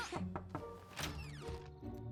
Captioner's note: knock at door